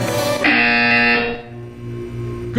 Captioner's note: buzzer.wav